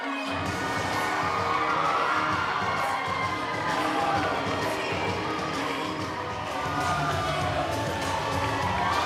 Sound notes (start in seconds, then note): 0.1 powerful music; 4.5 crowd cheering